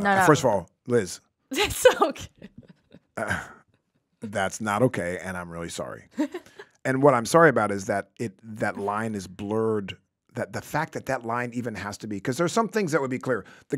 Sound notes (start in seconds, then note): 3.1 laughs